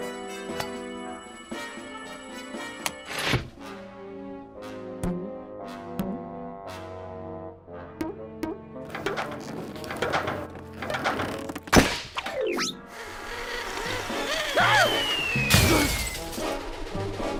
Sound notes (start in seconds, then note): 13.4 gasps; 16.5 sighs